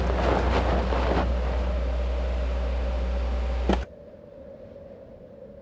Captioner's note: wind whistling